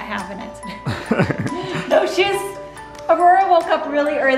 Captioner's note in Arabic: ضحكة مكتومة للوالدين